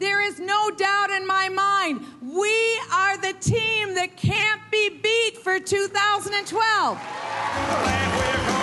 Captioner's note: cheering and applause